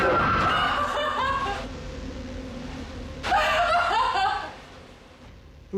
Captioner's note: sobbing